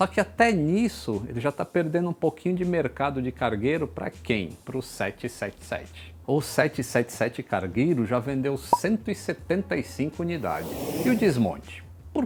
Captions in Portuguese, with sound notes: só que até nisso, ele já está perdendo um pouquinho de mercado de cargueiro para quem? para o 777 o 777 cargueiro já vendeu 175 unidades [som de avião ao fundo] e o desmonte?